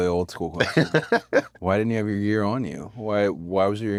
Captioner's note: laugh